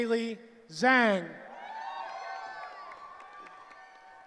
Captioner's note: cheering